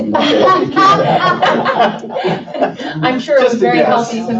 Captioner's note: laughing